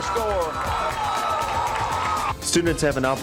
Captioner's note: crowd cheering